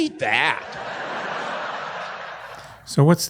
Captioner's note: audience laughing